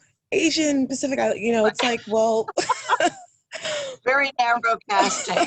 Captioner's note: laughs